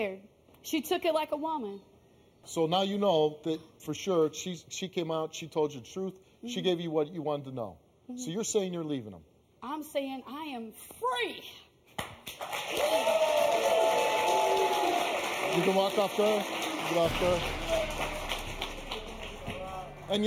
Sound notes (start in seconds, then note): 12.2 audience applauding; 16.6 dramatic music